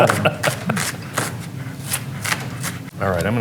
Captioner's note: slicing